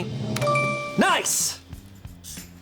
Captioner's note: tense music building; bell chimes; button clicks